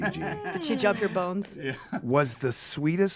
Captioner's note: group laughs